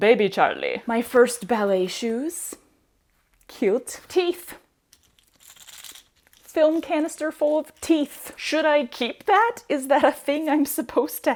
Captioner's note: rattling